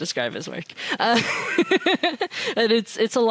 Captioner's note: laughing